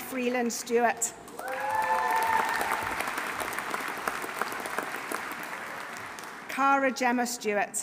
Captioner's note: audience applauding; audience cheering